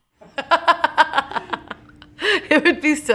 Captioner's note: laughs